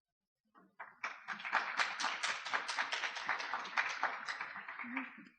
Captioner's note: audience applause